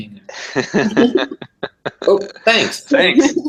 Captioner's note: laugh